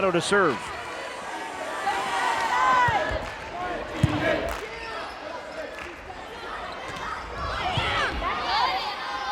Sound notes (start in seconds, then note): 3.3 crowd chanting; 3.4 players yelling